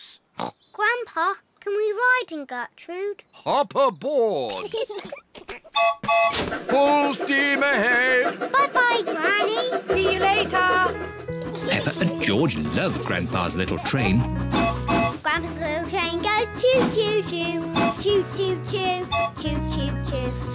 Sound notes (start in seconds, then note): 0.2 snorts; 4.4 piglets giggle; 5.8 toots train whistle